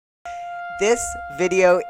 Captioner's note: siren wailing